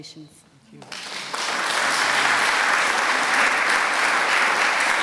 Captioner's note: applause